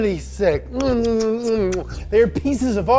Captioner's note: kissing sounds